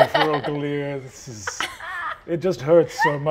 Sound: laughing

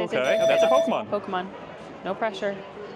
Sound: alarm rings

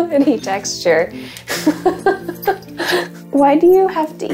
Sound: chuckling

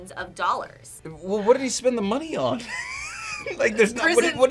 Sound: laughs

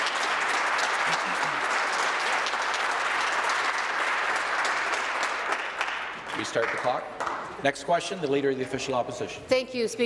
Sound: applause

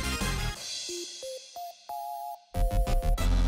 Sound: ring... Ring

